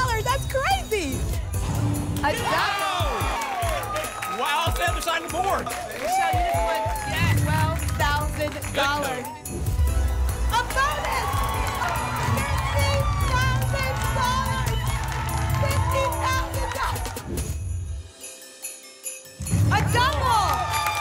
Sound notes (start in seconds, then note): 14.3 applause and cheering; 17.2 whoosh